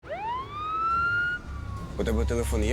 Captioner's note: ambulance siren